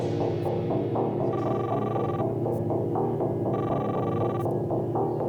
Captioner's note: cellphone ringing